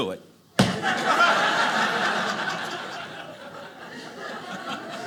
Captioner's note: audience laughing